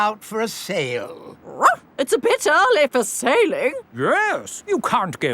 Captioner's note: barks